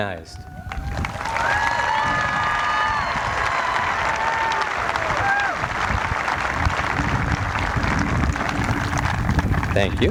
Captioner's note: applause